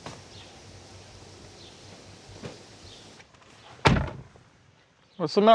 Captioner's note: door slams